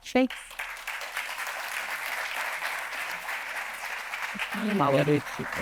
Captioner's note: attendees applauding